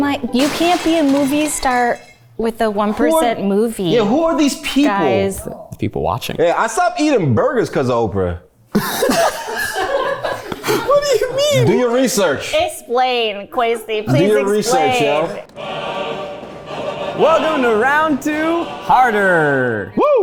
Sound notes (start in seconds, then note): 8.8 everyone laughs; 15.6 dramatic music